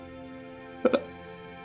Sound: choking back sob

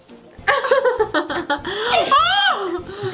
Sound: laughs

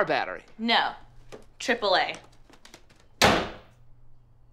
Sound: door slams

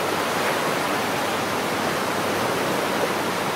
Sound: waves crashing

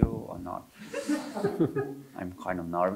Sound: audience chuckling

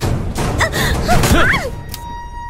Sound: screaming

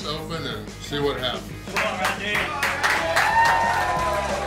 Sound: crowd; cheering

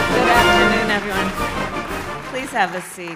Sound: applause

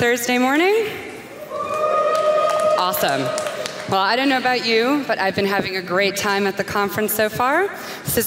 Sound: applause

